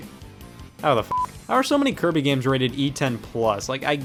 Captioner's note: beep